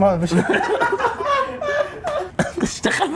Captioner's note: laughing